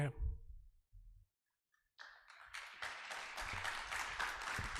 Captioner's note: audience applause